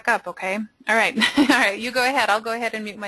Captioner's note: laughs